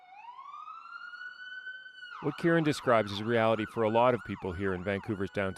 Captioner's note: sirens